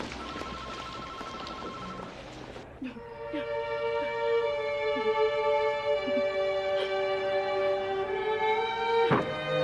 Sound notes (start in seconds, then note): 2.8 phone ringing; 4.8 Martha crying